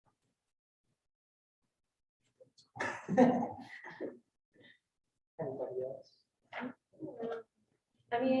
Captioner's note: student chuckles